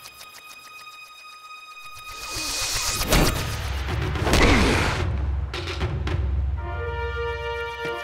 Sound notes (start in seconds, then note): 2.9 crashing; 4.2 groaning